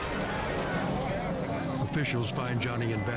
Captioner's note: crowd chatters